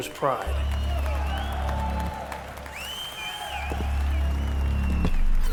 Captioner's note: crowd cheering and applauding